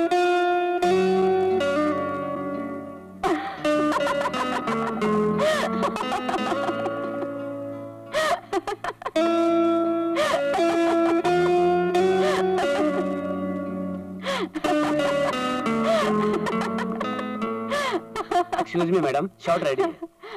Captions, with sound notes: (Laughs) Excuse me, madam. The shot is ready.